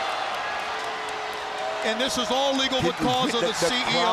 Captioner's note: crowd chatter